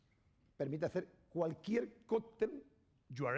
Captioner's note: speaking spanish